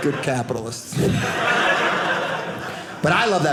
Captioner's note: audience laughing